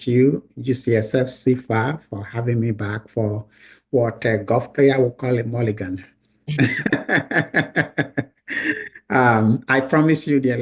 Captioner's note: laughs